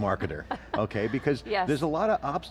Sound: laughing

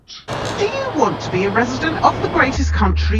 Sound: machine buzzing

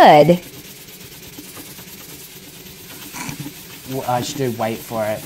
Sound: scourer scratching at high speed

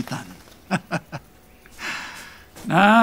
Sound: laughing

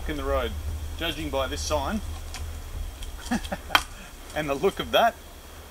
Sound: laughs

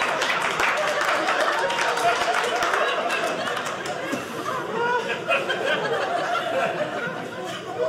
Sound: audience laughing; audience applauding

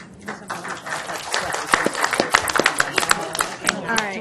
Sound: audience applause

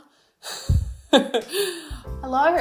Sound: laughing

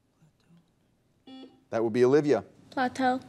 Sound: buzzer dings

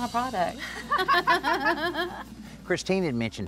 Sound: both laugh

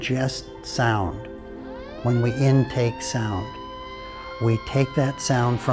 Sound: siren

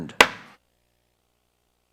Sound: gavel banging

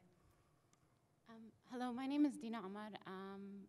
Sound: voiceover

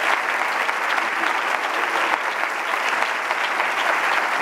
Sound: crowd applauding

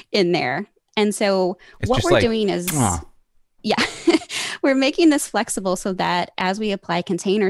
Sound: kissing noise

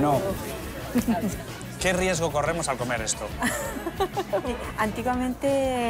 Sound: laughs

